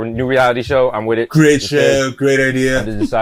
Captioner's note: impersonating donald trump